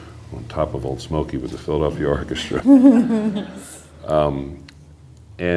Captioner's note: laughter